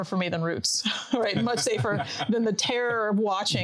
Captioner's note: laughing